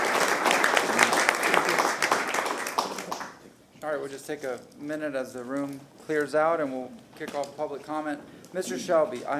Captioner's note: applause